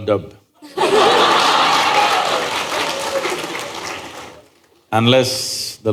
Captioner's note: laughter